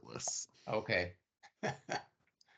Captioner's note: laughing